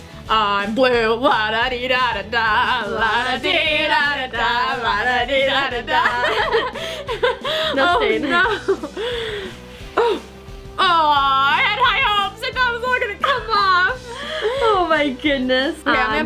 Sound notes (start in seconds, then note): 5.8 both girls laughing